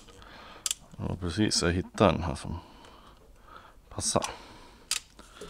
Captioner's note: mumbles